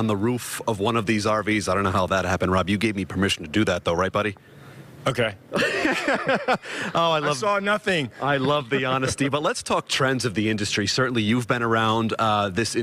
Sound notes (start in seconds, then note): 8.2 laughter